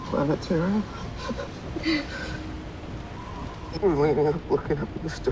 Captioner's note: laughs